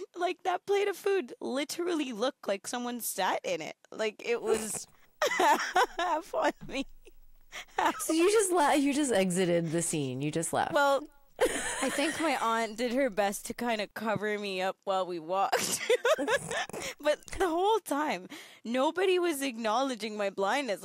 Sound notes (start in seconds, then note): 5.2 laughing; 11.4 laughing; 15.6 both laughing